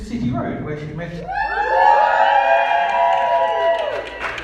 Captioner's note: whooping and cheering